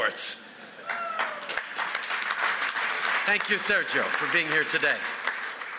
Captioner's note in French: Applaudissements